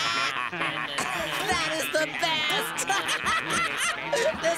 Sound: laughing

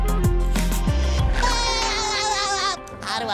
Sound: laughing

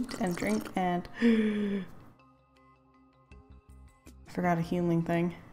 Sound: gasp

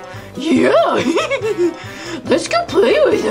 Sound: laughs

